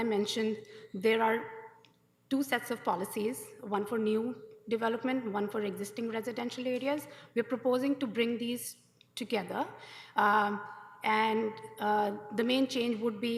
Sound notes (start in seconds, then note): none